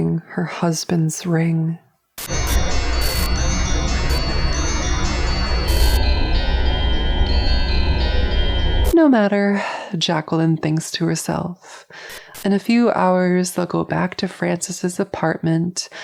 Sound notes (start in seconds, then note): 2.2 slowed down wind chimes with static bursts; 5.7 even slower wind chimes